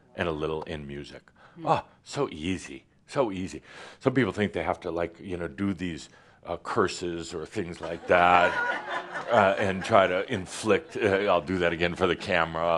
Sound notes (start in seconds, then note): 7.8 laughter as puts up his middle fingers again